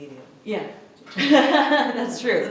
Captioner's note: laughs